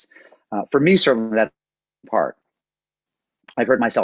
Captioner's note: audio cuts out